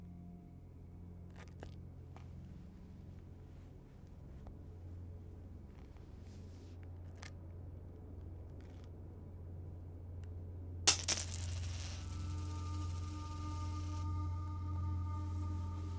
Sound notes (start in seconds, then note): 10.8 coins smack the floor; 12.0 ominous music